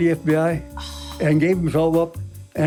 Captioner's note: sighs